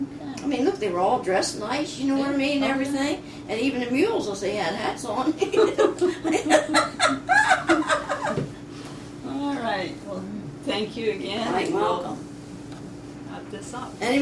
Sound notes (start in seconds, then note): 5.3 laughter